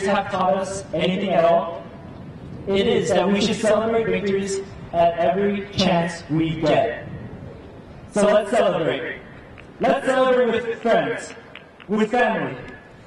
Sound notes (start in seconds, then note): none